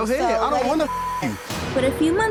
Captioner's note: beep